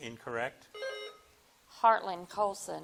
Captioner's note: bell dings